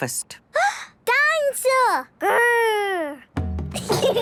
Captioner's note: gasps; children giggling